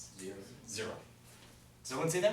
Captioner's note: voiceover